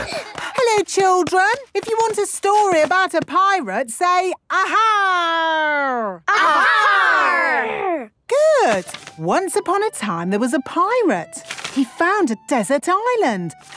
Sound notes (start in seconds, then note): 6.3 all shouting